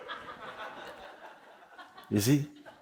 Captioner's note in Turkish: Kahkaha